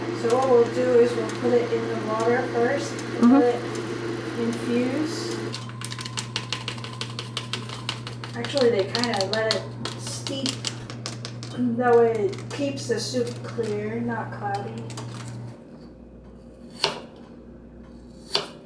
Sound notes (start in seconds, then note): 6.3 tap, tap, tap, tap